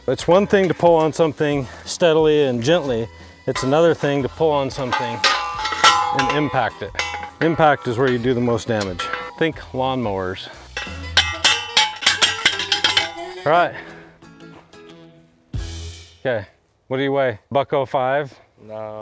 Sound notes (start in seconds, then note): 5.2 pole pounder clanging; 5.2 upbeat music; 10.6 pole pounder clanging; 11.1 upbeat music